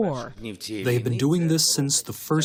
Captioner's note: through translator